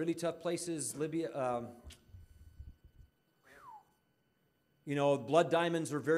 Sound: whistling

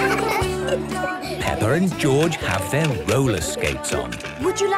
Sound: laughter; giggling

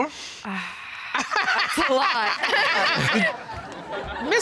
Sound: sighs; laughs; chuckles

